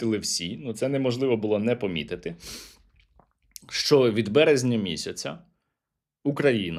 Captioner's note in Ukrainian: сопіння